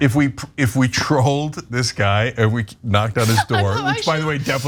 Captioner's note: laugh; laugh